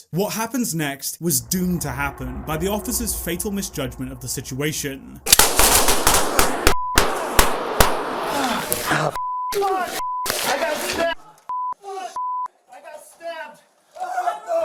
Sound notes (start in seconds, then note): 5.2 gun shots echoing; 9.1 beep; 13.4 beep